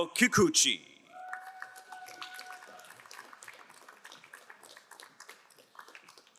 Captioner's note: crowd cheering and applauding